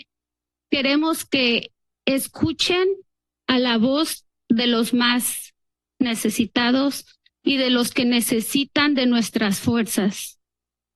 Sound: speaks in Spanish

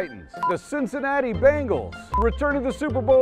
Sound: beep; beep

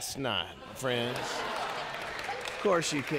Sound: congregation laughing

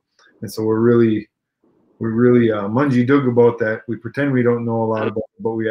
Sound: speaking Ojibwe

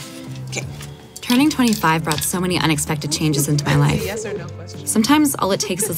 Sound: voiceover

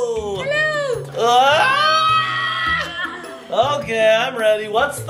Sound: screaming

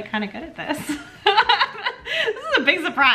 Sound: laughing

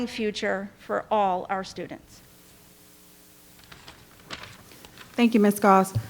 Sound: paper rustling

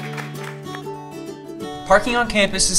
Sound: applause

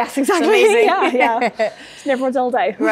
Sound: laughing

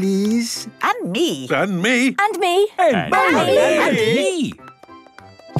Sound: calling out in turn

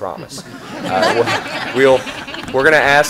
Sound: laughter

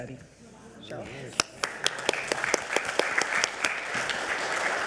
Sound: audience applauding

